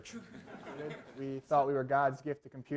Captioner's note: laughter